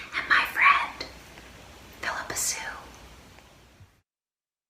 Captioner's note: whispering